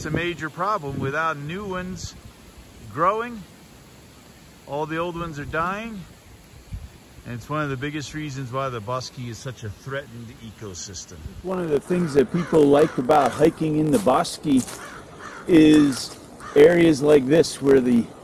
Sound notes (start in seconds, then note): 11.6 leaves crunching, crows cawing